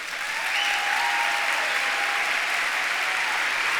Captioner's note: audience cheering & applause